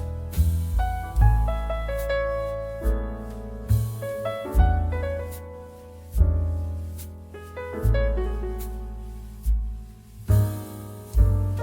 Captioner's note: gas vents